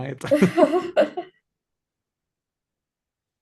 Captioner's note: both laugh